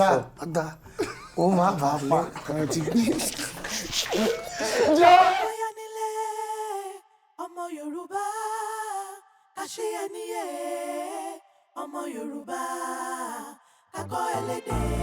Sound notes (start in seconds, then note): 3.2 everyone laughs